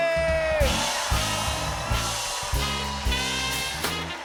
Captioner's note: cheers and applause